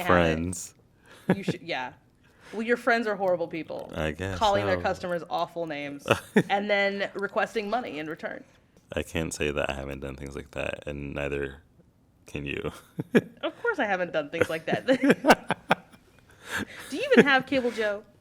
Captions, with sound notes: >> I can't handle it. >> You should-- yeah. Well, your friends are horrible people. >> I guess so. >> Calling their customers awful names-- [ Laughter ] -- and then requesting money in return. >> I can't say that I haven't done things like that, and neither can you. [laugh] >> Of course I haven't done things like that. [ Laughter ] Do you even have cable, Joe?